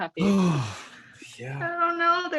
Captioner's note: exhales meaningfully